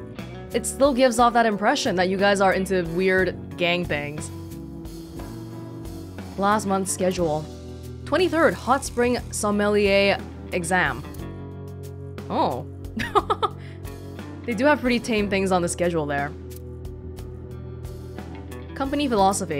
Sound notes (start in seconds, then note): 13.0 chuckles